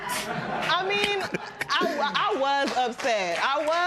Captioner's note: laughter